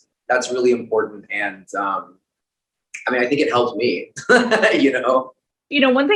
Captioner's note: laughs